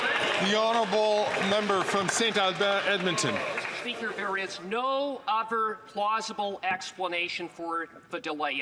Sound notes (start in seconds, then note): 3.9 some Applause